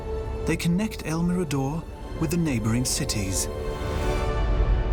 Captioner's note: none